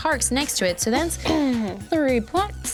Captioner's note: clears throat loudly